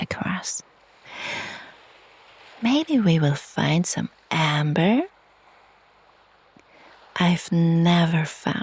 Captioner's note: sighs and gasps